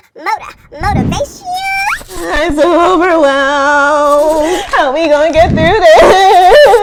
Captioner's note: crying